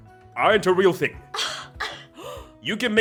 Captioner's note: group gasping